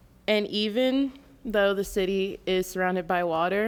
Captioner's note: none